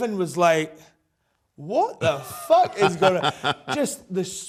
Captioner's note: laughs